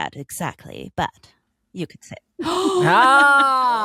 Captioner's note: gasps